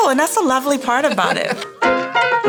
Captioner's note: laughing